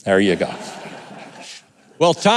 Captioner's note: audience laughing